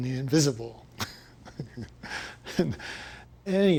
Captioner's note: chuckling